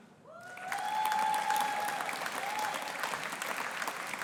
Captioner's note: audience applauding